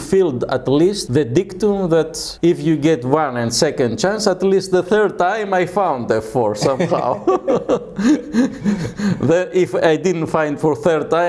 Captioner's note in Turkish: Karşılıklı gülüşmeler